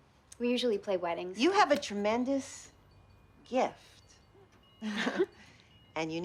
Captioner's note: chuckles